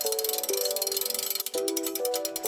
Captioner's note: gear cranking sound